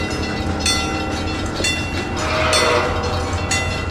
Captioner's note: C&O Greenbrier whistle